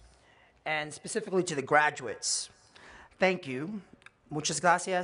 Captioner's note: spanish